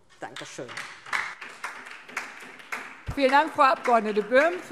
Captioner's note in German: Beifall DIE LINKE